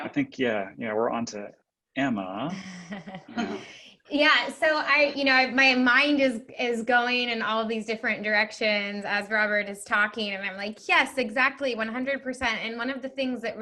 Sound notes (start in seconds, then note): 2.6 laughing